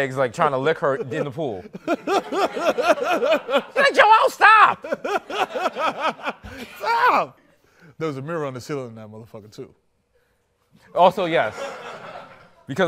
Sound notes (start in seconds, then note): 4.5 laughs